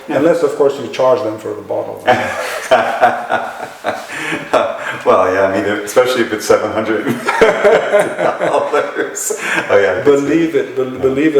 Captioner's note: laughter